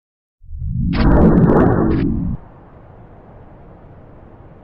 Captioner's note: wind whooshing